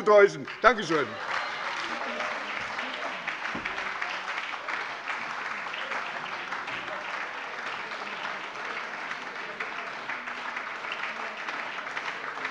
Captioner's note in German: Anhaltender Beifall bei der SPD